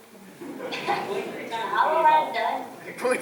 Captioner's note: laughter